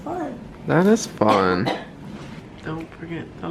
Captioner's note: coughing